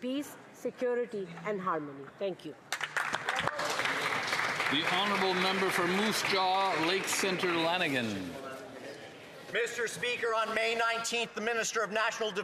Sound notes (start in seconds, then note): 7.8 applause